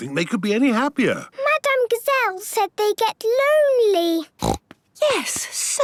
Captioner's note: snorting